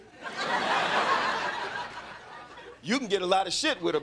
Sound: crowd laughing

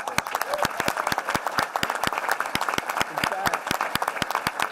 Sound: applause

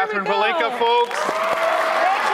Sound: audience applauding; audience cheering

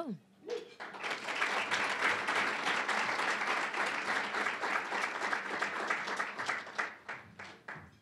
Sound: applause

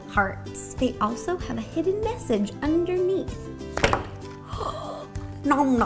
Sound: gasp

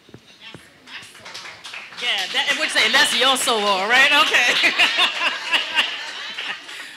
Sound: audience applauding

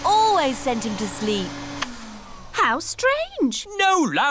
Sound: whirring stops

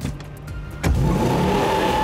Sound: gears shifting; engine revving; tires squealing

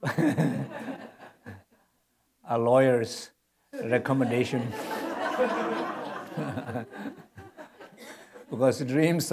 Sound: laughter

